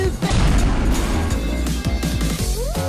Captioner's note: bang!; metal_pipe.mp3